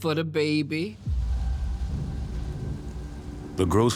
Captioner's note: thunder cracks